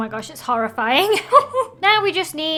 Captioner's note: laughs